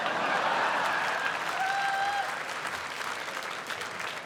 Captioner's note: laughter